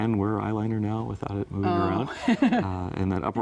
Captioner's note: chuckles